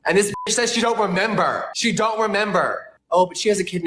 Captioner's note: beep